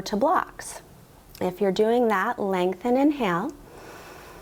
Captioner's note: inhales